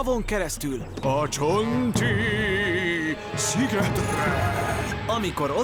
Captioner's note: spooky voice